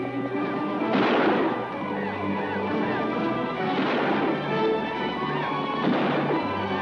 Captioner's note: música emocionante; explosión de armas